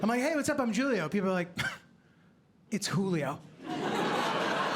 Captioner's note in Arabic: يسخر; ضحك